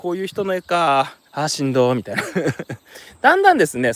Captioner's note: laughs